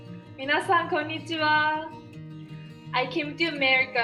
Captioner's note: speaking Japanese